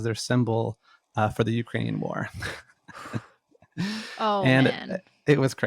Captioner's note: laughs